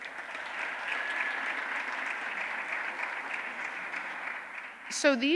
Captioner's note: applause